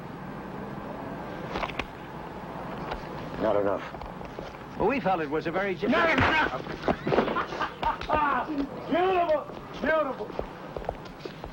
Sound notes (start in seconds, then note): 1.1 paper rustles; 6.0 Jake's punch thuds; 7.0 Donny laughing